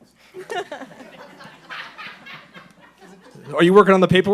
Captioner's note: laughing